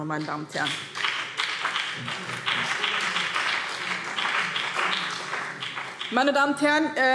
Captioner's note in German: Beifall BÜNDNIS 90/DIE GRÜNEN